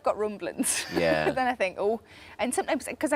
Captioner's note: laughs